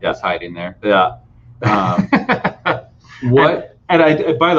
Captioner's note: laughing